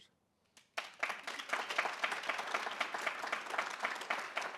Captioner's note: audience applauding